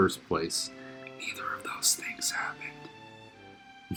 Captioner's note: whisper